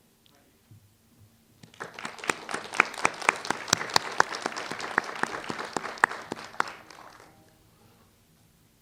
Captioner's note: applause